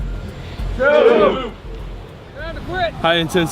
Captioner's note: men grunting